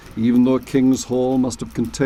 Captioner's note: fire crackling